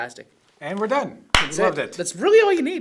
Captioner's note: claps